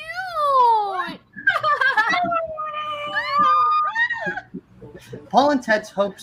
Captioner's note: friends screaming with joy